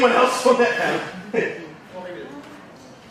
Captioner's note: laughing